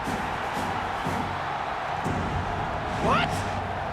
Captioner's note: intense music; crowd cheering